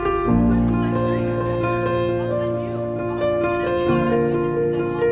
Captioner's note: people chattering